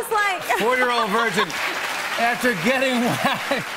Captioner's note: laughs